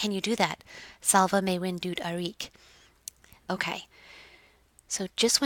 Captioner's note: non-english speech